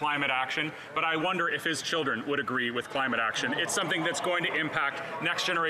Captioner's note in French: voix de l'interprète